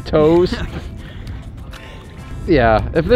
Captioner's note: chuckles